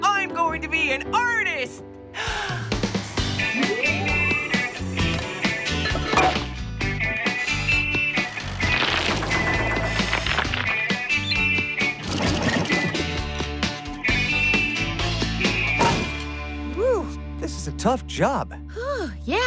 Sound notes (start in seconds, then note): 4.2 machine Whirring; 6.0 clank!